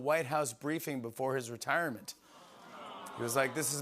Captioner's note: audience "Awws"